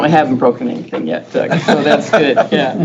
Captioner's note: group laughs